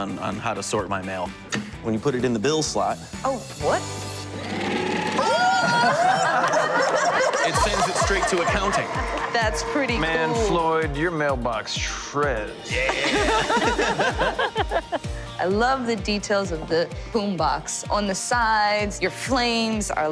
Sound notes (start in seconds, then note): 4.4 shredder whirs; 4.9 shouting and laughter; 12.8 laughter